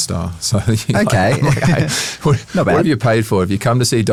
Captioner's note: laughs